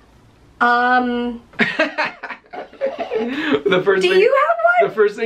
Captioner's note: laughter